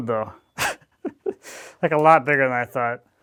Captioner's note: chuckling